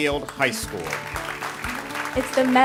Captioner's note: ^applause^